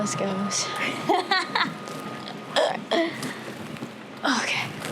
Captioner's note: Jordan laughs